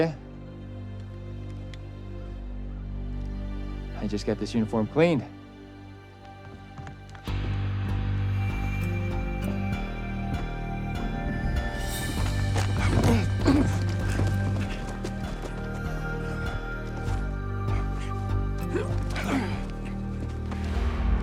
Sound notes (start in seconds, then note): 11.0 deep ominous music continues; 15.4 constable grunting; 20.4 deep ominous music continues